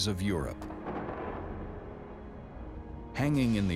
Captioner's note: thunder rumbling